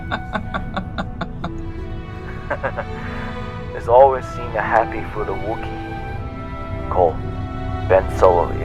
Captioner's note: chuckle